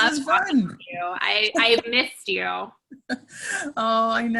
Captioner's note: laughs